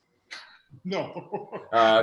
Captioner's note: laughs